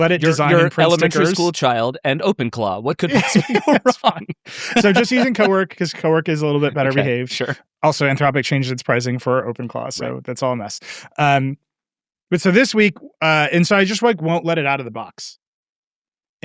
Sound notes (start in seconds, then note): 2.8 laughing